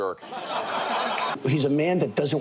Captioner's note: audience laughing